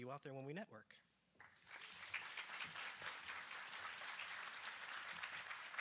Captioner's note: applause